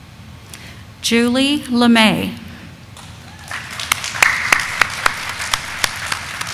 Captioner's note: audience applauding